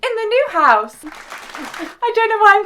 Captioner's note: applause